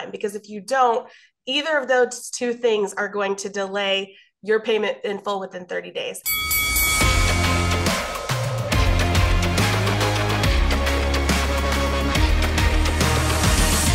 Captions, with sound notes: Because if you don't, either of those two things are going to delay your payment in full within 30 days. (bell ringing) (upbeat music)